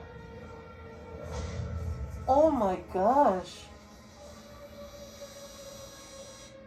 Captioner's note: bam!